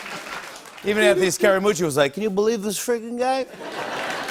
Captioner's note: normal voice; As Scaramucci; laughter and applause; normal voice